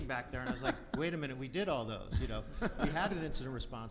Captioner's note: laughs